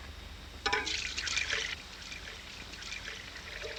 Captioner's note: milk spilling